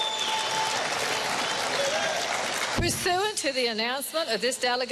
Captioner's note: cheering and applause